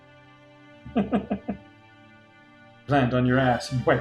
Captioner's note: chuckles